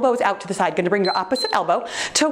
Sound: timer beeps

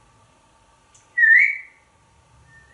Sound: whistle

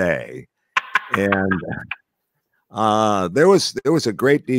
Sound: laughing

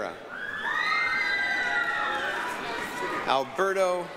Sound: applause, cheering

